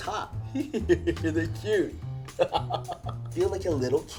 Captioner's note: laughs